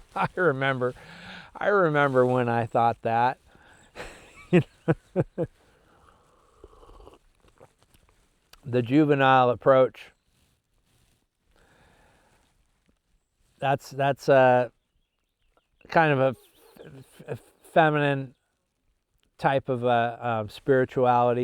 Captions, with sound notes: I remember when I thought that. (laughs) The juvenile approach, that's kind of a feminine type of spirituality.